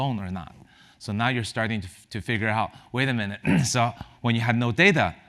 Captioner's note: cough